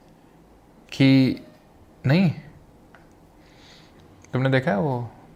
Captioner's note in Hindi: नाक से की जाने वाली आवाज़